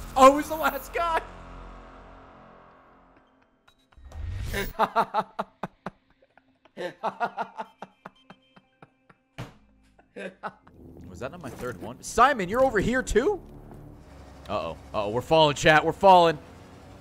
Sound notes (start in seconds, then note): 4.5 laughs